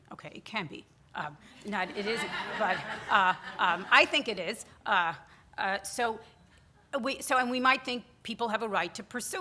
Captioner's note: audience laughter